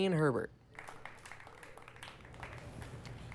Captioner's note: applause